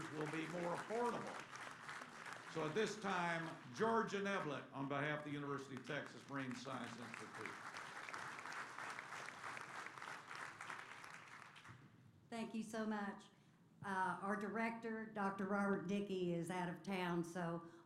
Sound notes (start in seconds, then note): 7.7 applause